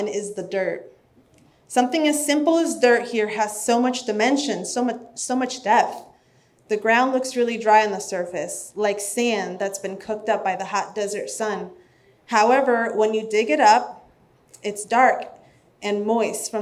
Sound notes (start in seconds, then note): none